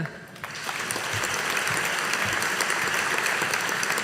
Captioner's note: audience applauding